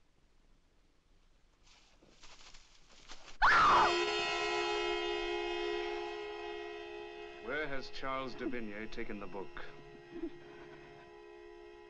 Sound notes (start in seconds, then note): 3.4 Madelon screams; 3.6 suspenseful music